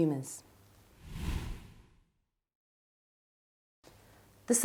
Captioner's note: whooshing